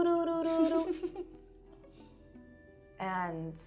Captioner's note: laughing